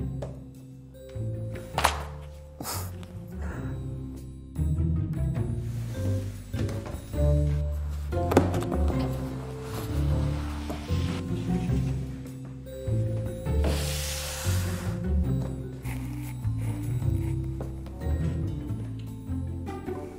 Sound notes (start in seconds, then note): 0.0 mischievous music; 1.7 closing book; 2.9 mischievous music; 5.8 box sliding; 11.7 mischievous music; 13.6 box sliding; 16.1 mischievous music